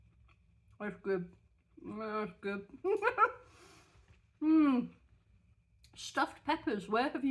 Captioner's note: laughing